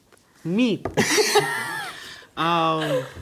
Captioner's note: laughter